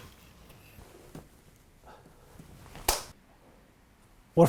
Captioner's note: bow bangs on the floor; arrow scrapes against the board; arrow bangs on the floor